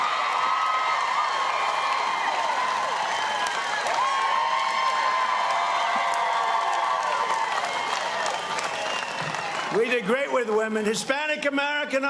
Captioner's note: cheers and applause